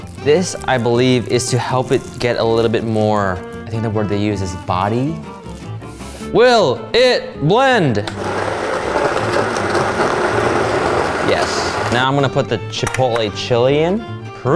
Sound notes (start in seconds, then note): 8.0 machine churning